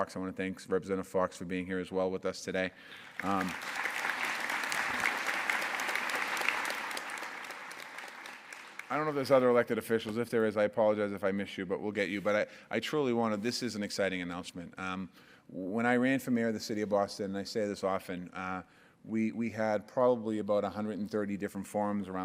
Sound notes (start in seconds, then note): 2.9 applause